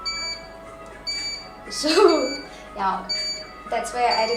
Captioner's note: laughing